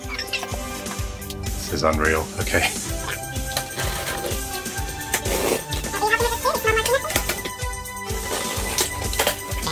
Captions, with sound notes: - This is unreal, okay. (upbeat music playing) (box ripping sounds)